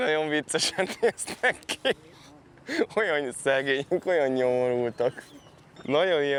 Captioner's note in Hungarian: nevetés